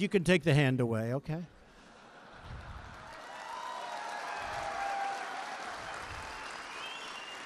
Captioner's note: laughter and applause